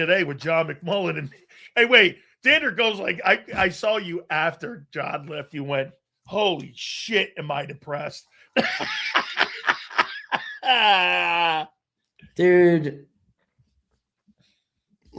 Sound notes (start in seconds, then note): 6.9 laughs